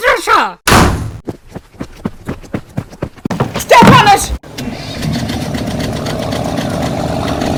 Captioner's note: engine starts